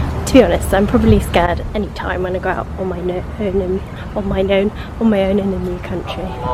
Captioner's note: laughs